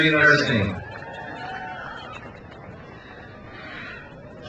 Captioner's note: crowd cheers